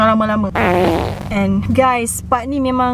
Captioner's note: fart sounds